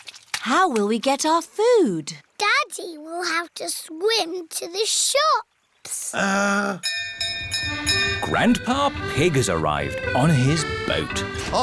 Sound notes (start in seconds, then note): 6.8 bell rings